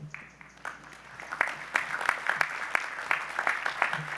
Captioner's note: applause